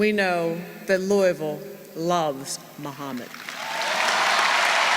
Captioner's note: applause